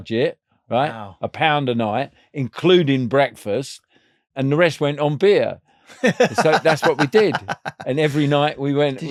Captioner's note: laughing